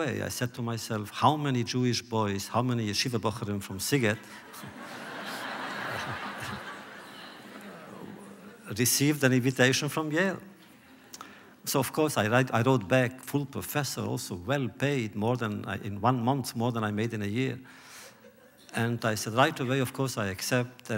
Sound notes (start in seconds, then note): 4.1 laughter